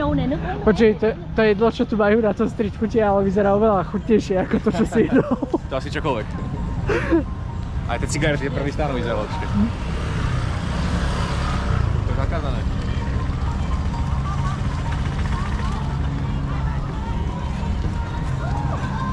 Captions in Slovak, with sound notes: Počúvaj, to to jedlo, čo tu majú na tom strchutie, ale vyzerá oveľa chutnejšie ako to, čo si [smiech] to asi čokoľvek. Aj tie cigarety prvý stanov lepšie. To je zakázané.